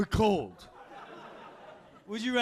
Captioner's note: audience laughing